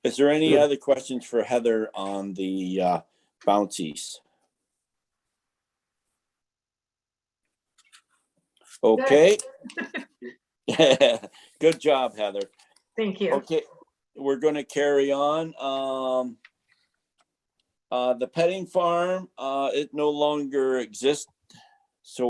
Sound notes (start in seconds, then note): 10.6 chuckles